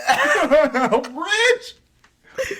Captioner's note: laughing